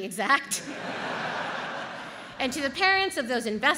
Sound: audience laughs

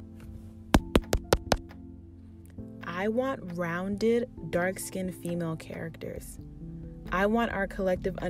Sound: mic tap

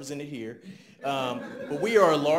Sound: audience laughs

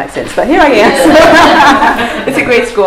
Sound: laughter

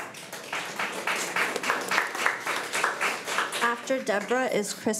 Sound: crowd clapping

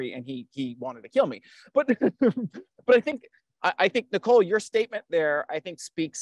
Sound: laughs

